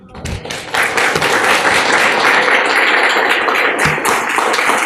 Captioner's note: applause